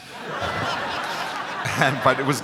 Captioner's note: crowd laughs